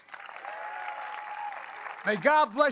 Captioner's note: applause